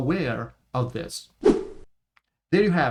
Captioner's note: transition swishes